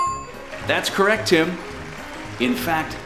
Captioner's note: applause